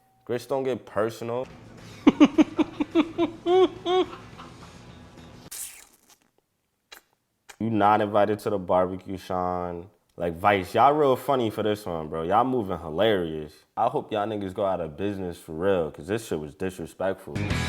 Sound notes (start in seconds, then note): 1.9 laughing; 5.5 sucks teeth